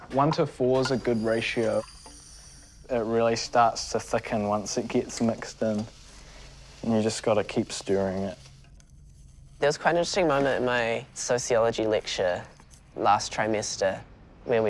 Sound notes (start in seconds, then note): 1.6 water pouring